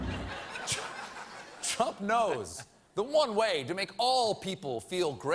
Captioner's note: laughter